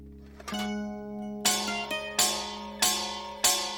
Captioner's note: clashing lids